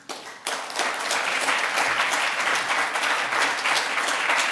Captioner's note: audience applauding